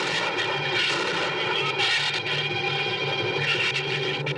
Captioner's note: gunshots